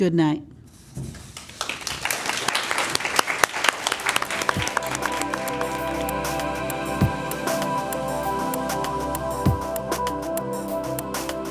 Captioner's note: applause